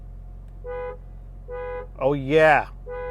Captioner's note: horn honking